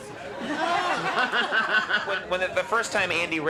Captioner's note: laughs